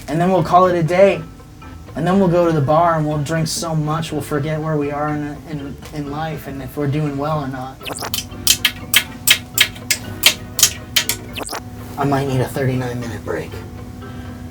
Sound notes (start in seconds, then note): 8.1 tapping easel